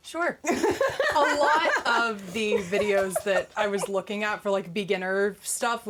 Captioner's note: laughing